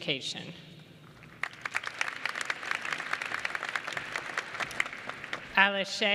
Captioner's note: applause